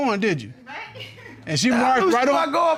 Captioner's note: woman laughs